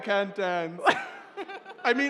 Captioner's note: laughter